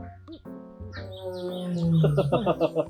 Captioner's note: tiger sound